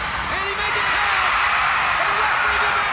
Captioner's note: crowd cheers